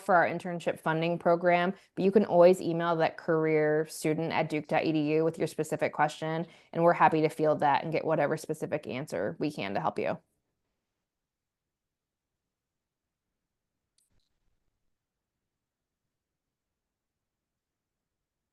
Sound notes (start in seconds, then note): 12.0 silence